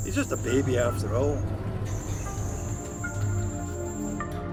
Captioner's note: elevator screeching